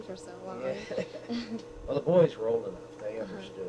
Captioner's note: both laugh